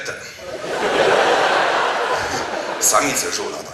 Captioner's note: audience laughs